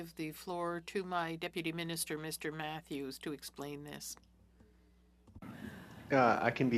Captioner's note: speaking French